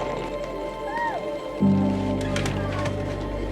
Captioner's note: indistinct chatter